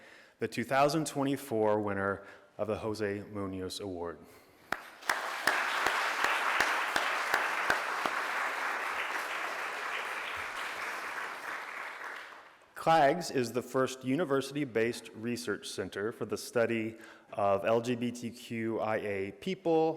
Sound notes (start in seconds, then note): 4.7 crowd applauds